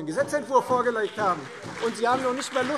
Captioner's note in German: Beifall Freie Demokraten - Zurufe